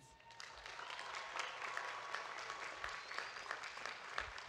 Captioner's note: audience applauding